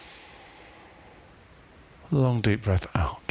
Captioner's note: breathing